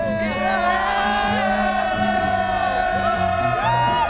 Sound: cheering

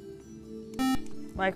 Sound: buzzer

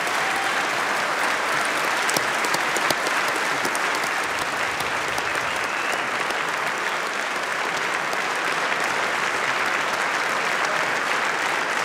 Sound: applause

